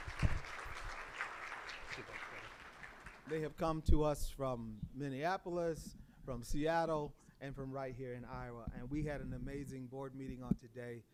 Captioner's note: applause